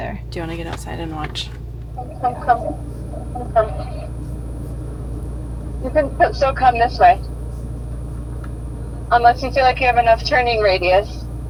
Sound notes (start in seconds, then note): 1.6 muffled voice from on the phone